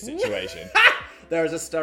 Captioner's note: laughing